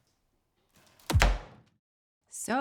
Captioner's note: knife thudding; fist thudding